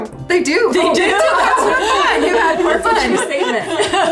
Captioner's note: all laughing